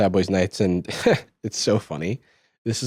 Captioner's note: laughs